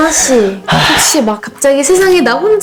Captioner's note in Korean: 에휴